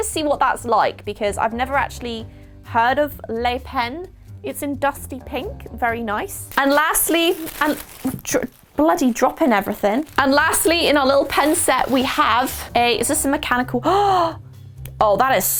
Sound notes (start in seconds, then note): 13.8 gasp